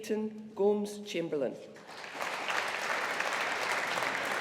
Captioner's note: audience applauding